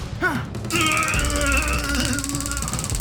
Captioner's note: taser buzzing; officer moaning